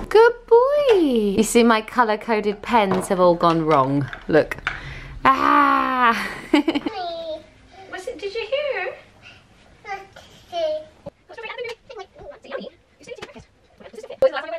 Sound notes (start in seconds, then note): 6.1 laughs; 7.0 baby coos; 11.3 fast forward voices